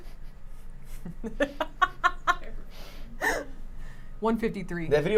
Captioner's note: laughs